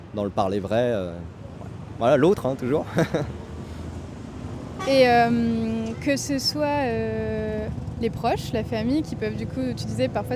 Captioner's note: laughs